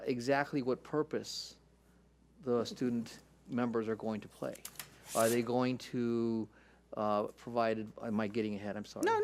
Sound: none

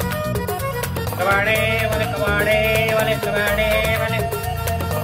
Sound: shouting

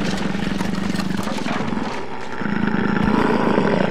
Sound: growling

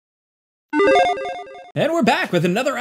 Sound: electronic beeping

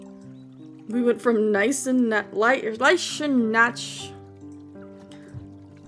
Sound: with Lisp

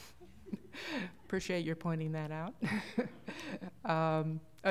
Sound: laughter

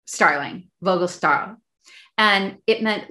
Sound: speaking in foreign language

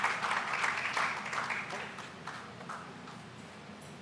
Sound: cheers and applause

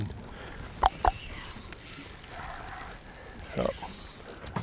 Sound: clucks loudly

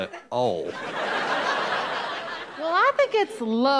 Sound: audience laughing

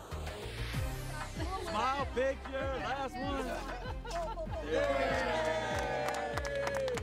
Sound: applause and cheers

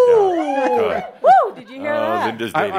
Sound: a couple hoots in the audience

